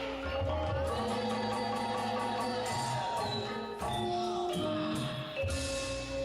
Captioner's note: upbeat music; people exclaiming excitedly